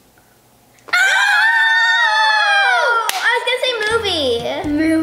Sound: shouting

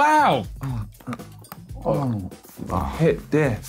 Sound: chocolate crunching

